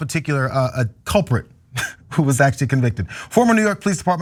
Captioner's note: laugh